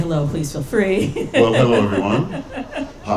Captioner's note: laughing